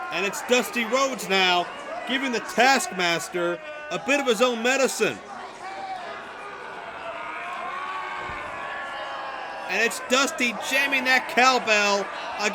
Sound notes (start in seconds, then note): 6.1 screams